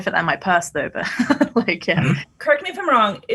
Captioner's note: laughs